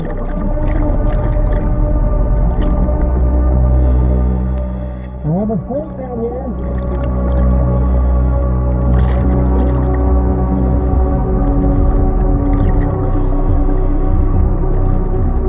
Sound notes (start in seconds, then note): 0.0 oxygen tank whooshing; 0.3 chilling music continuing; 7.7 chilling music continuing; 8.8 oxygen tank whooshing